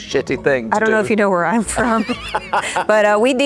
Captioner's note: laughing; Ewan and Anna laughing